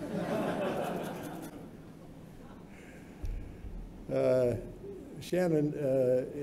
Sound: laughter

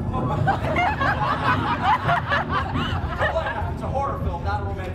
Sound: audience laughs

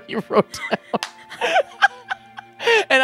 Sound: laughing; both laughing

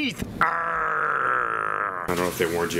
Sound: growls

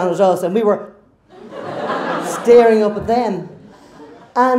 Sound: crowd laughs

